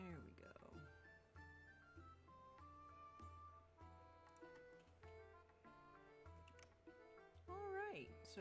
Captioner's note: mouse and keyboard clicking